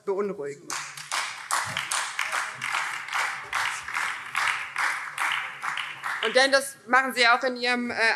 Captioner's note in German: Beifall BÜNDNIS 90/DIE GRÜNEN und Freie Demokraten